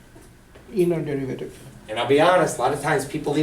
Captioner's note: voiceover